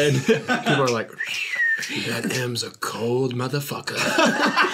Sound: whistles & snaps

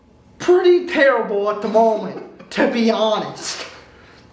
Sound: laughs

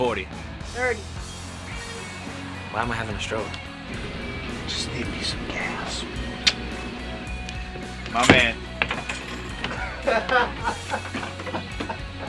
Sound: kisses on cheek; laughs

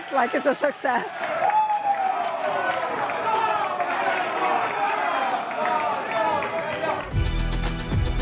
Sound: crowd cheering

